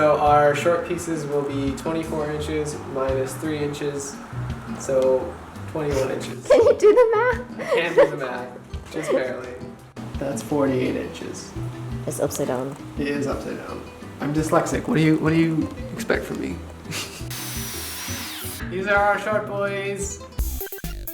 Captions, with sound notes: Our short pieces will be 24 inches minus 3 inches so 21 inches. Can you do the math? *laugh* I can do the math, just barely. That's 48 inches. It's upside down... It is upside down. I'm dyslexic! What do you, what do you expect from me? These are our short boys!